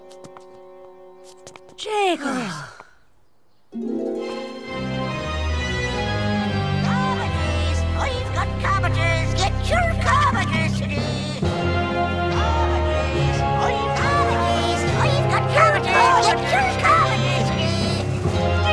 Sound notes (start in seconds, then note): 2.2 sigh; 4.0 ominous music